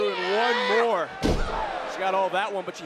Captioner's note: body thudding